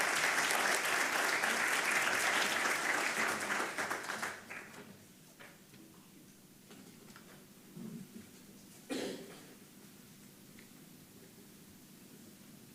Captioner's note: applause